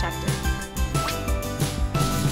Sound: whip of fishing rod

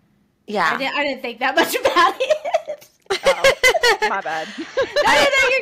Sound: laugher

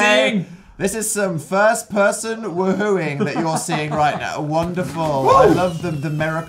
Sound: laughs

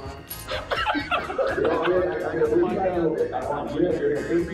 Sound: murmured laughing

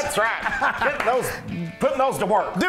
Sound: laugh

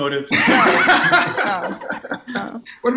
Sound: laughter

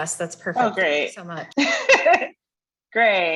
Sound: chuckles

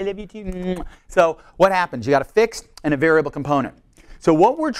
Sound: kissing sounds

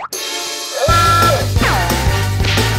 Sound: dramatic music playing; alarm blaring

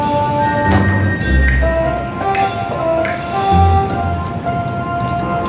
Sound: mouth clicking

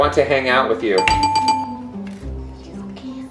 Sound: bell dinging

